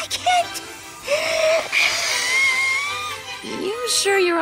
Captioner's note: exhales sharply